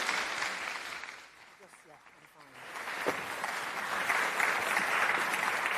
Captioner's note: applause